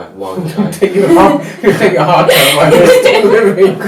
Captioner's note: laughter